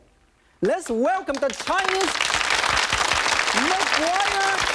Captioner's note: audience applauding